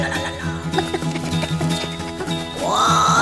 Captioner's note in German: aufgeregtes Gebrabbel